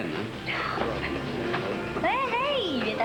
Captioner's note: soupir